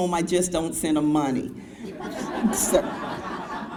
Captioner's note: crowd laughs